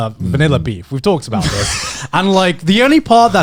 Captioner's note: chuckling